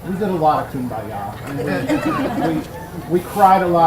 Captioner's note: audience laughs